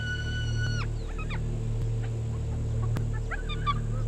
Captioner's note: hyenas chittering